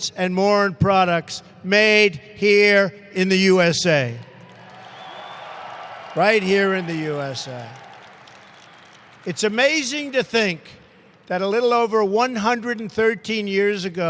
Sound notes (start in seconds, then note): 4.4 applause